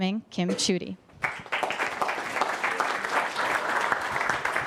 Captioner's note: applause